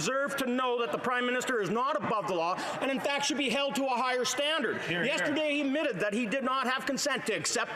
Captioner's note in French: voix de l'interprète